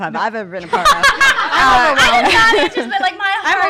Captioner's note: laughs